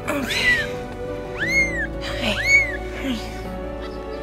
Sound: meows

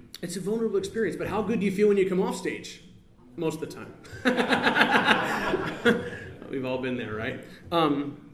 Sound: laughs

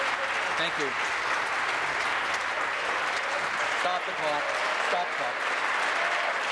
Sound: applause

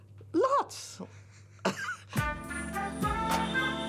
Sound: laughing; swanky music

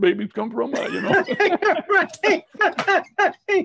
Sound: both laughing

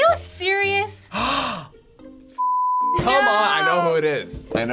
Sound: gasping

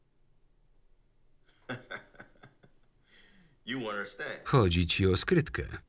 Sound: laughs

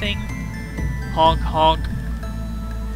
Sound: honk! Honk!

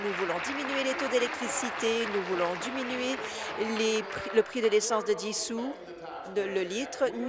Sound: applause

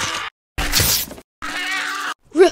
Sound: scratch

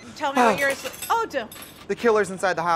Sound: glass clinking; Trixie gasps

